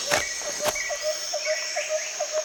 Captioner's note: wildlife sounds